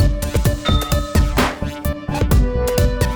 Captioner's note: ding